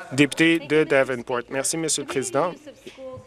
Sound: some Applause

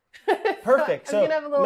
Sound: laughing

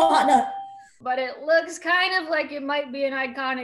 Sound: ding

